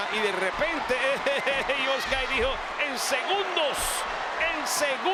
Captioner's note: laugh